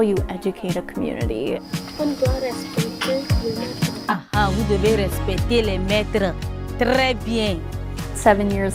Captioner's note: speaking french